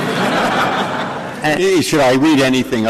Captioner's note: laughter